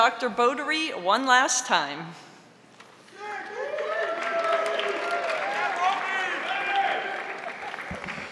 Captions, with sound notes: to Dr. Bodary one last time. (crowd cheering)